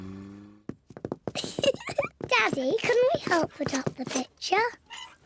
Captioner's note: giggles